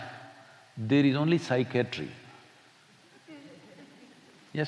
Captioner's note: few laugh